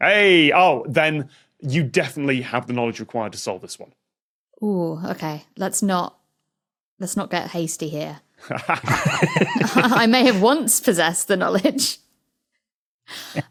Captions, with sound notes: Eyy! Oh, then, you definitely have the knowledge required to solve this one. Ooh, okay. Let's not... Let's not get hasty here. (group giggling) I may have once possessed the knowledge.